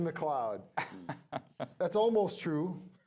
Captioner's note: laughing